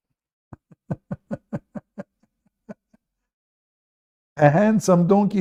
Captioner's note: Ketawa